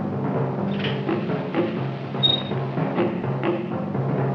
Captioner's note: gate squeaking